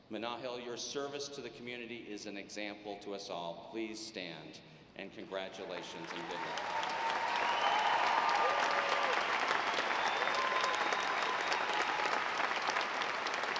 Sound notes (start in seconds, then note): 7.1 audience applauding